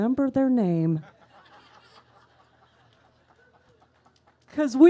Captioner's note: laughter